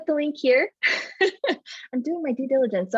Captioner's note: laughs